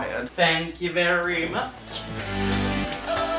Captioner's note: singsongy